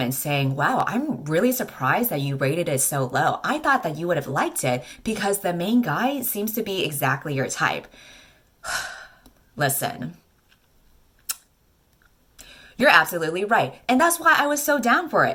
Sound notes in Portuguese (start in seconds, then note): 8.6 suspiro